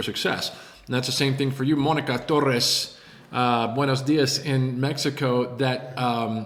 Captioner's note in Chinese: 西班牙文